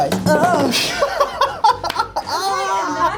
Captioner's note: Zendaya and Jacob laugh